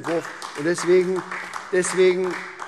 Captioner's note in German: Beifall SPD